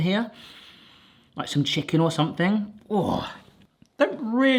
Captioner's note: groans